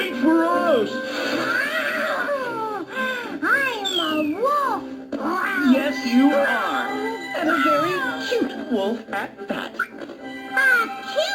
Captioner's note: more growls